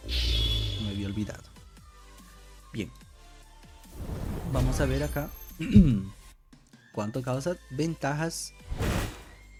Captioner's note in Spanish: carraspeo